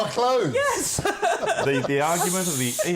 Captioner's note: laughter